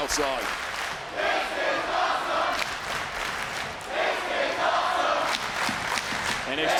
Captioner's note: crowd chants "This is awesome"